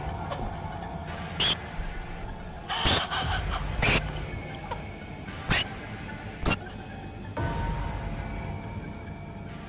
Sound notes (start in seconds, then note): 1.6 erratic scratching sounds